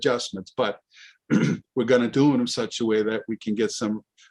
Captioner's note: clears throat